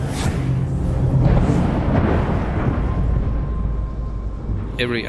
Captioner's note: thunder